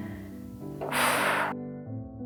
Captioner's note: huff of despair